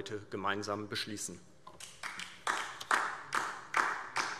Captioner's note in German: Beifall DIE LINKE